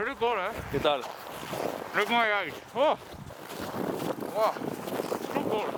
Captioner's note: speaking in foreign language